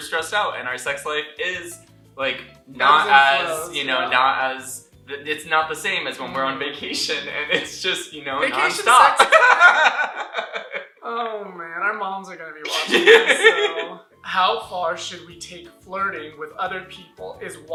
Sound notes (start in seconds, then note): 8.8 laughter